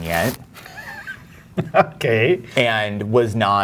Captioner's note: laughs